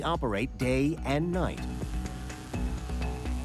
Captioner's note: buzzing